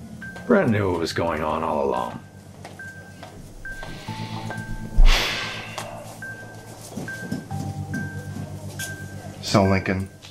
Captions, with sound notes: Brent knew what was going on all along (Heavy Sigh) So Lincoln...